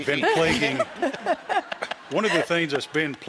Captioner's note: laughter